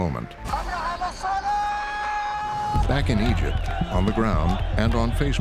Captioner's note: man shouting, crowd chanting